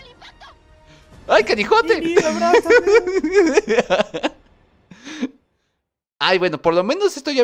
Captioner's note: laughs